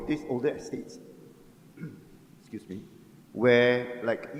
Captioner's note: clearing throat